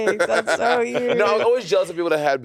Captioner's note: laughing